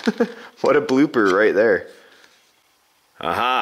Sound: laughs

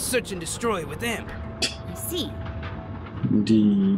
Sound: scoffs

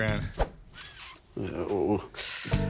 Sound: inhales

